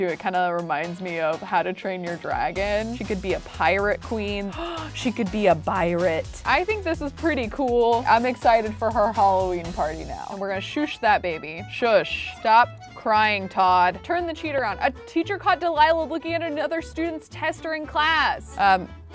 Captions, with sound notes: It kind of reminds me of "How to Train Your Dragon". She could be a pirate queen. (gasps) She could be a birate. I think this is pretty cool. I'm excited for her Halloween party now. And we're gonna shoosh that baby. Shush, stop crying, Todd. Turn the cheat around. A teacher caught Delilah looking at another student's test during class.